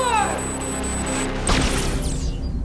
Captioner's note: gunshot